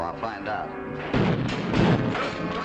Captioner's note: gunshots